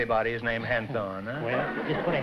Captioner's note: laughter